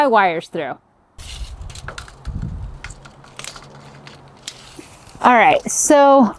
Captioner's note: tape measure rattling